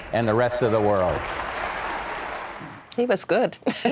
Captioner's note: applause